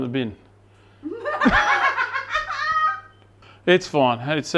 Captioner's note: laughing